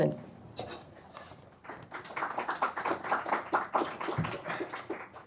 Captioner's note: crowd applauding